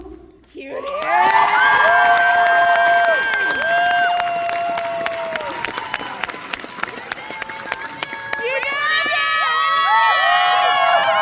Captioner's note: applause, general crowd adoration and love